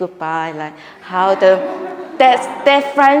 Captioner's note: audience laughing